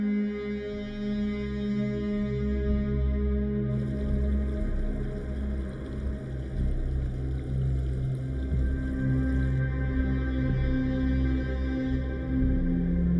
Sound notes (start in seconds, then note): 3.7 wind blowing; 3.7 river babbling